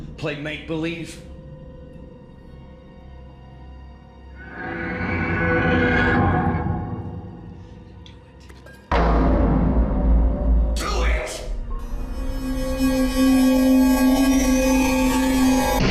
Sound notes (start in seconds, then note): 2.0 soft ominous music; 4.4 monster growling; 11.9 soft ominous music